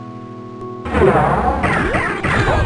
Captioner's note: loud ass door sfx